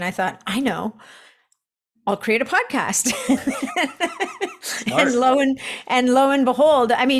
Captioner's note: chuckles